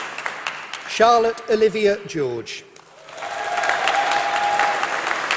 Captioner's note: applause